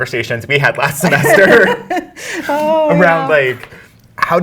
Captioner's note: laughs